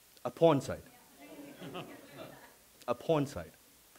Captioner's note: laughing